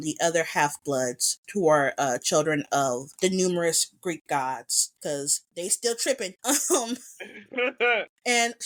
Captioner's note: laugh